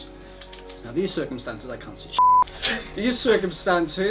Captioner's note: beep